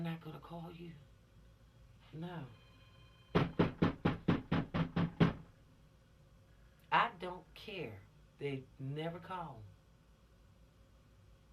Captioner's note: knocking